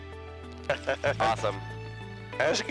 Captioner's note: laughs